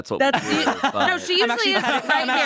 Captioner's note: laughs